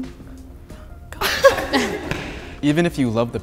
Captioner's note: group laughing